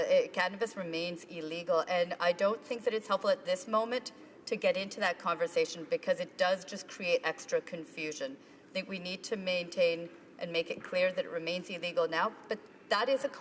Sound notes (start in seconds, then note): none